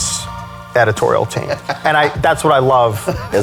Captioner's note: laughs